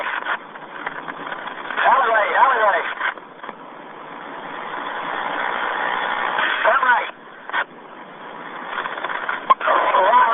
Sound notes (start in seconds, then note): 3.1 helicopter engine roars